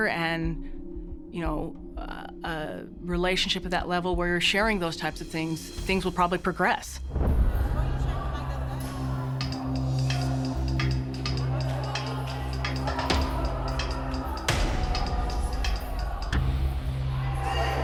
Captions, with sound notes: and, you know, uh... relationship at that level where you're sharing those type of things, things will probably progress. [indistinct chatter] [suspenseful music playing]